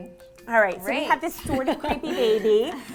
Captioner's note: laughs softly